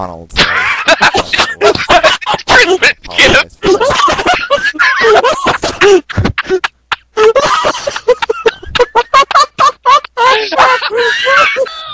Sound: laugh

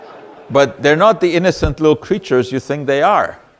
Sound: audience laughter

